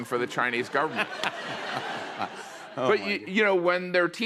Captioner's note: laughter